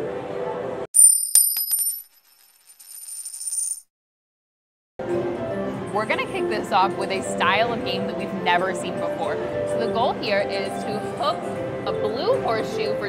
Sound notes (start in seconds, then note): 0.9 coin rolls; 0.9 coin clinks